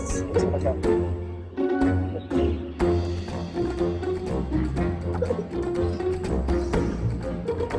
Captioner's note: whispering and sniggering